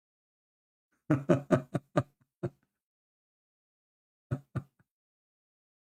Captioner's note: Ketawa